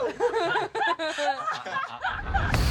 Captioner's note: laughter